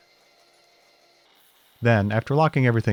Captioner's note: machines whirring